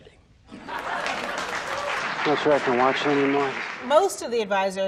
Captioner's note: audience applauding